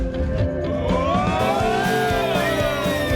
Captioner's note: soft music; rallying cry; upbeat music